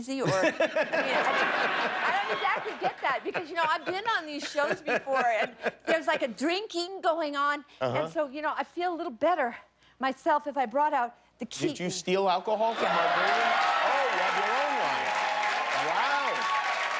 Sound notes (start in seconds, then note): 6.3 laughter